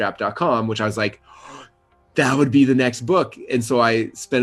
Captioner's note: gasps